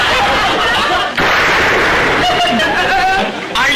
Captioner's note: gunshot